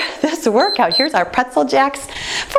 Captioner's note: timer beeps